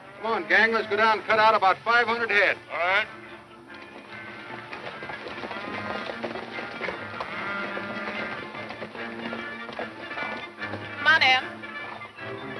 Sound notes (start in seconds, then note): 5.2 horses galloping